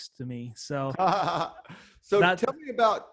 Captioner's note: laughs